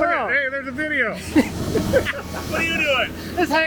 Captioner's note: both laugh